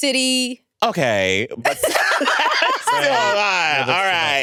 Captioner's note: everyone laughs